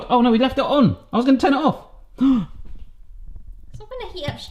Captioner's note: gasps